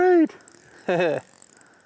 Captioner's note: chuckles